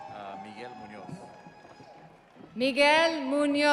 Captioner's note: audience cheering